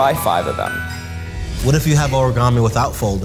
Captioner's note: animation chimes